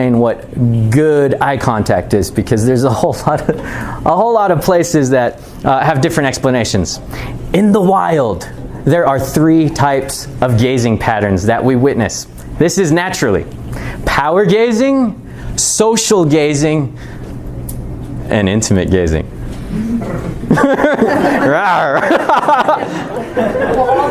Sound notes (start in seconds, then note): 19.7 student growls; 22.3 chuckling